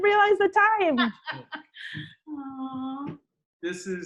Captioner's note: laughs